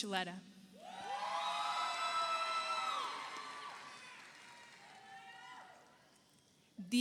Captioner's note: audience cheers; audience applauds